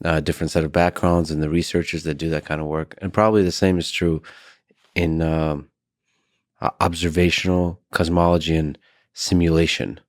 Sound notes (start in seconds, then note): none